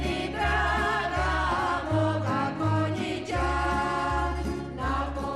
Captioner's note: applause